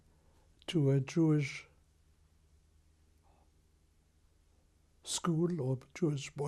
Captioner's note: pauses for 3 seconds